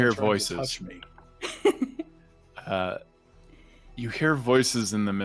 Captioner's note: laughing